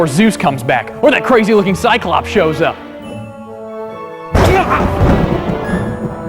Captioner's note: thunder claps